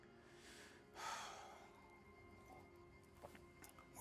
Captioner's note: sighs